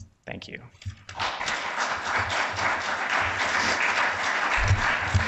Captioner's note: audience applauds